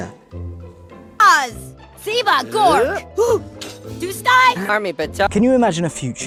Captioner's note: speaking in foreign language